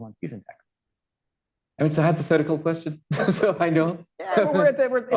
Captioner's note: laughs